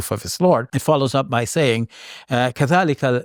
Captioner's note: speaks Arabic